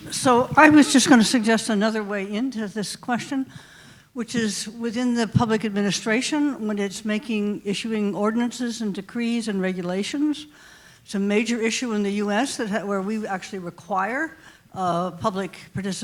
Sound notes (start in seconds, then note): none